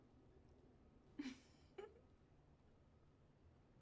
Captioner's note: chuckles